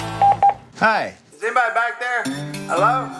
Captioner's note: phone